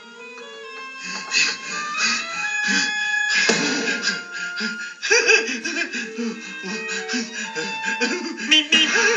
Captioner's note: panting